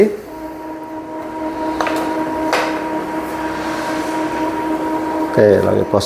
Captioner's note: printer machine noise